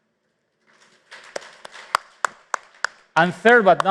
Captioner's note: applause